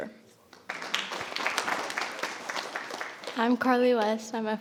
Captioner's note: audience applauding